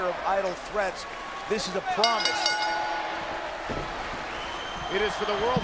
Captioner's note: bell rings